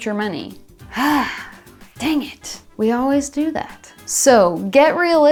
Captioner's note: sighs